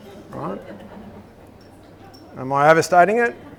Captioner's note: audience laughs